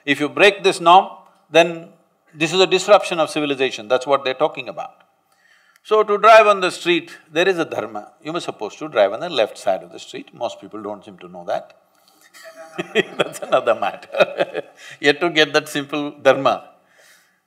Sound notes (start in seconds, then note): 12.3 laughs